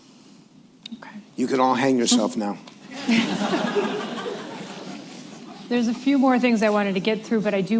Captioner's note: laughter